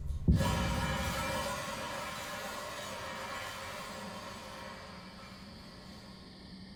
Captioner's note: crickets chirping; ominous music